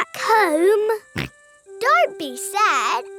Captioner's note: snorts